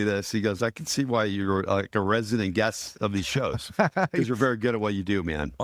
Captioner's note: laughing